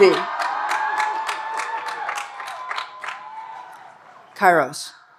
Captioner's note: audience cheering and applauding